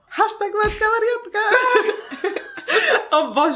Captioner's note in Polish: śmiech